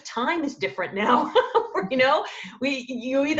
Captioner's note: laughing